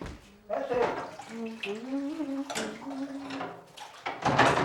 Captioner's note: humming